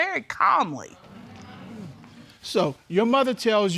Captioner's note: audience agreeing